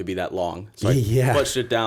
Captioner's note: chuckle